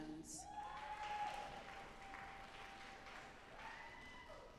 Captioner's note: audience applauding